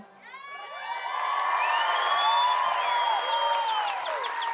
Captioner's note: cheering, applause